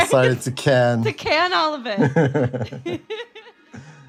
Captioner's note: both laugh